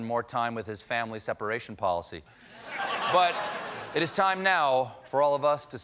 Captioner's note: laughter